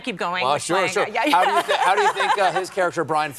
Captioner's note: laughter